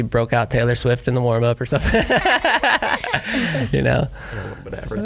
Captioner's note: laughs